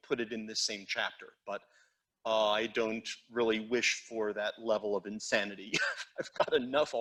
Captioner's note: laughs